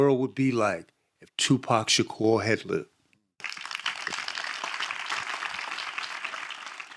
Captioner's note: audience clapping